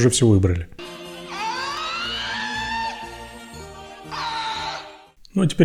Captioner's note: man screams